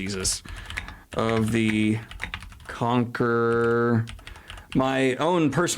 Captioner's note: keyboard clacking